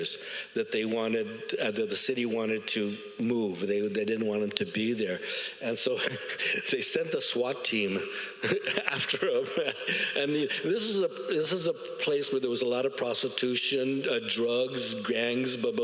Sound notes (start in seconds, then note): 5.9 audience laughs